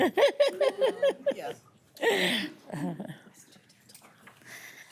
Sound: audience laughing

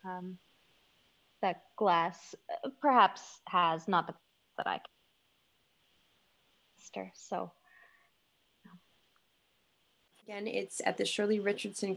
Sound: audio cutting

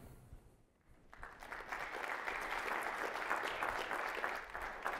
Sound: audience clapping

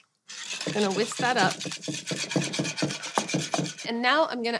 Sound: whisk scrapes

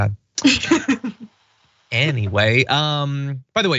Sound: laugh

